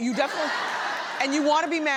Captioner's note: audience laughs